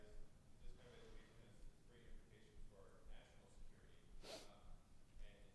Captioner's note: faintly speaking